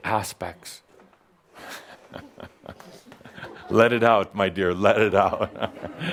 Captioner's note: someone reacts, Adamus chuckles